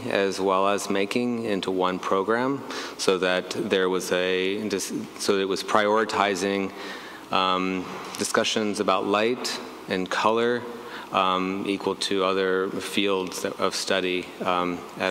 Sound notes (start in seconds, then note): none